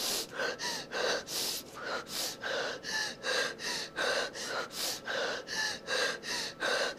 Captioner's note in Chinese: 喘氣聲